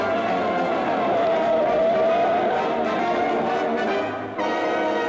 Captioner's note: suspenseful jazz music; tires squeal; suspenseful jazz music